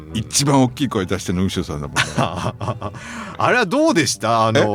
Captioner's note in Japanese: 笑い